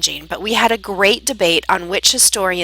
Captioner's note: Vietnamese